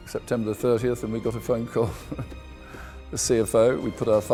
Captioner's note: laughs